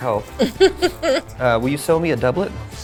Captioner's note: laughing